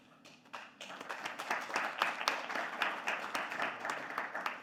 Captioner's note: audience applauding